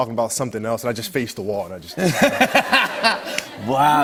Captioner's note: laughter